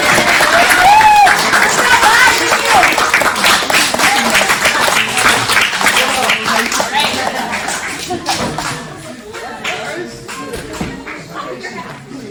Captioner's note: more applause from the audience. Good job everyone!